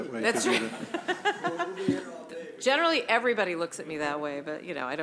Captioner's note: laughter